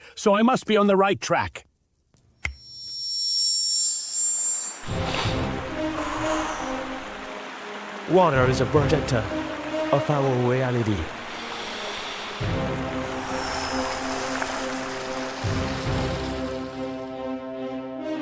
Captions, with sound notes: so I must be on the right track. (Snap of fingers) Water is a projector of our reality.